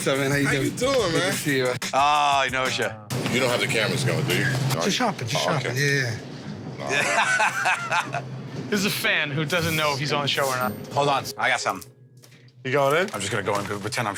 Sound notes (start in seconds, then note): 6.8 laughs